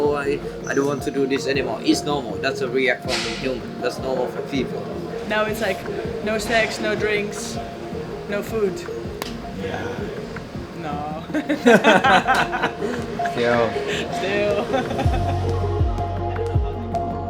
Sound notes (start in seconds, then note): 11.3 laughter